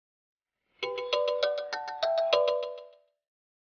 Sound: cell Phone Ringing

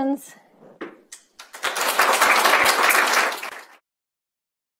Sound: applause

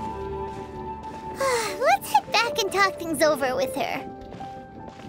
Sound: sigh

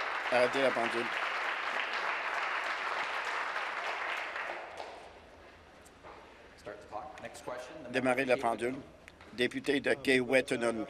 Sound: applause

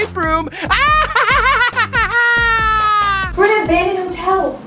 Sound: cackling laughter

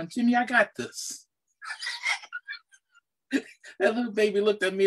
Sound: chuckles

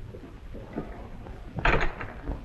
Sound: door closes

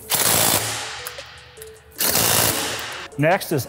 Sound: torque wrench buzzing

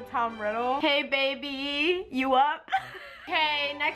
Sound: laughs

